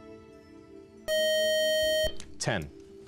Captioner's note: time up buzzer